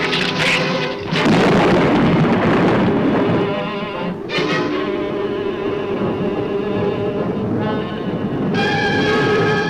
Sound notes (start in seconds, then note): 1.0 thunder claps; 4.1 ominous music continues